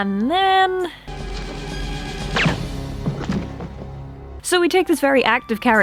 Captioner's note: gunshot and DRAMAFACE!